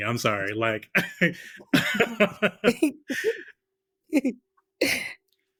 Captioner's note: laughter